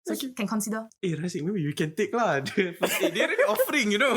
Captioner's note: laughs